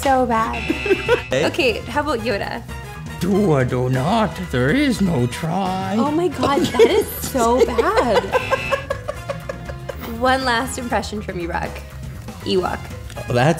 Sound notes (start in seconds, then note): 9.1 laughter